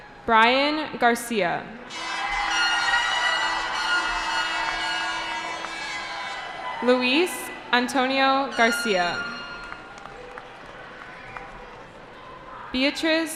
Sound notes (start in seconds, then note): 2.5 cheering; 9.0 applause